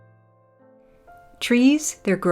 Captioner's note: voiceover